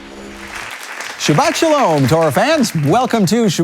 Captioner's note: applause